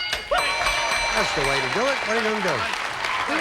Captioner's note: audience applauding